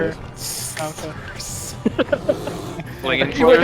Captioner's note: wheezing